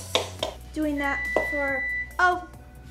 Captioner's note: oven beeping